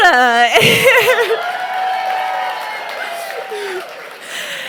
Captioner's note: audience cheers